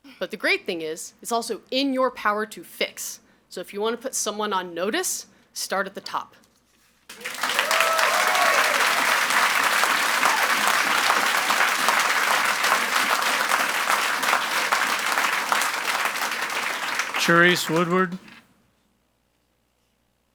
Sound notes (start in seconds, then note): 7.4 audience applauds and cheers